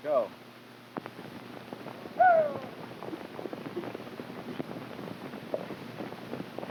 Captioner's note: hooves clopping; cowboys whooping